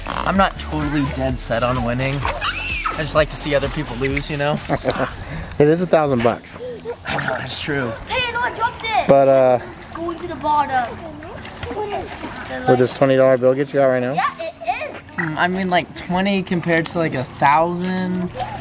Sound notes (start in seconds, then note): 4.5 laughter